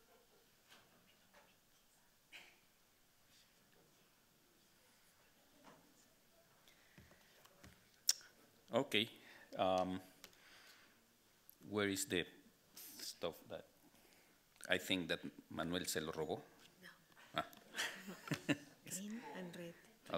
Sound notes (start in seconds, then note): 15.5 speaking Spanish; 17.3 laughing